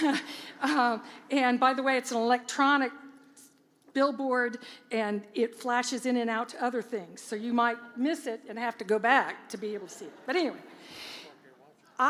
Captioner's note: laughter